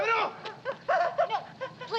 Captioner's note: shouts in Japanese